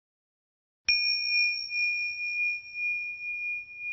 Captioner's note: chiming